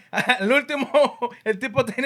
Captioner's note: speaking Spanish